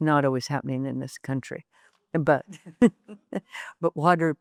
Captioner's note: chuckles